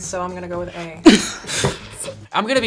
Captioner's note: both laugh